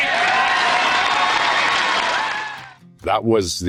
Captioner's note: audience applauds